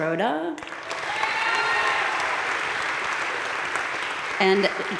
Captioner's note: crowd cheering and applauding